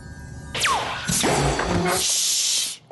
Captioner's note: pop